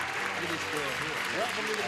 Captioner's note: clapping